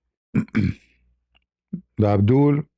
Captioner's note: berdehem